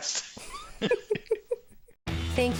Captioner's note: laughing